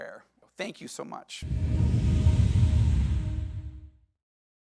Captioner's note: air whooshing